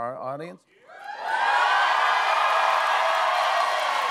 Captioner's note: cheers and applause